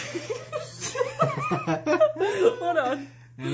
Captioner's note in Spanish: Risas